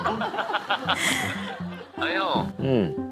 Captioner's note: chuckling